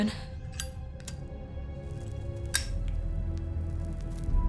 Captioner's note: lighter rasping